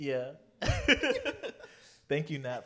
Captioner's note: laughter